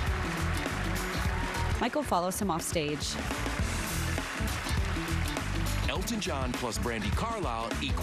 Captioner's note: applause